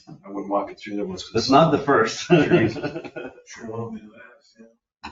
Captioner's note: laughs